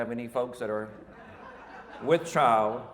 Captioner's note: audience laughing